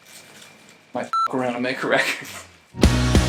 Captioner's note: beep; laughing